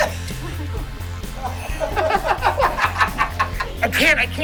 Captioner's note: laughter